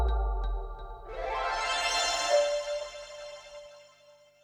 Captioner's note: light airy music; logo chiming